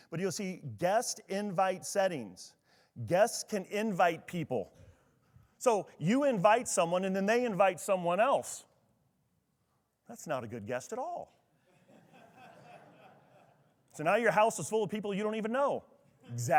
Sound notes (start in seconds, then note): 11.6 attendees laughing